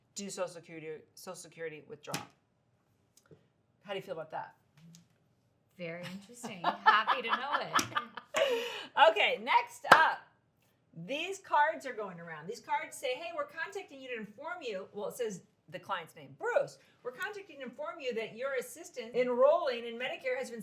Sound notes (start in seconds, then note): 6.0 laughs